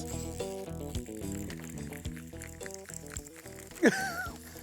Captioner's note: reel clicking; laughs